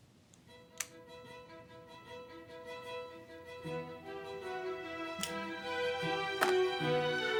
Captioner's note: lighter clicks; dramatic orchestral music